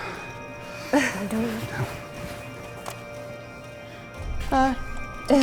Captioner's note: breathing heavily